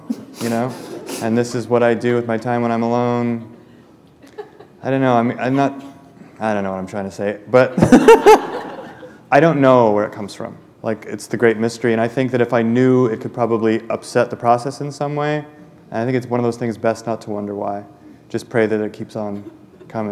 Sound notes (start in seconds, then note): 7.7 laughter